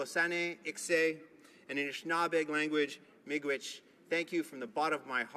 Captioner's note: speaking Alternate Language